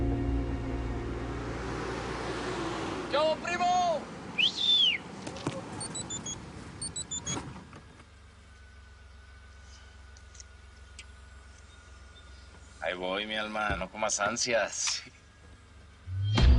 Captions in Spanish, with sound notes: - ¿QUE HUBO, PRIMO? [Silbido] [Suena el beeper] AHI VOY, MI ALMA. NO COMAS ANSIAS.